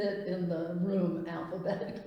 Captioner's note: laughs